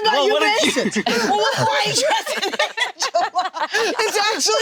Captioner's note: group laughing